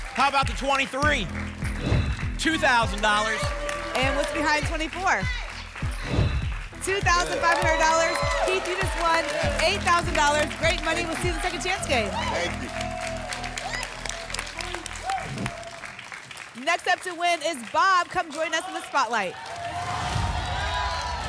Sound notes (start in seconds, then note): 1.8 whoosh; 6.0 whoosh; 13.5 applause and cheering; 15.2 whoosh; 19.9 applause and cheering